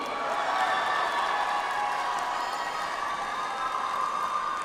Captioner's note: audience applauds